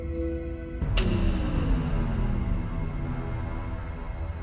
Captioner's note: electronic whirring; ominous music